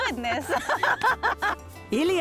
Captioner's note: both laugh